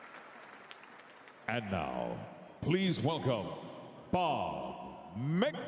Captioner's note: applause